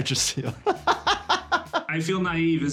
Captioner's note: laughing